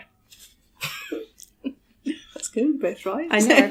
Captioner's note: laughing